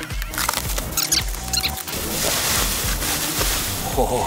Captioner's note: paper shuffling